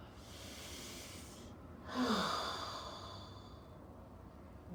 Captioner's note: breathing deeply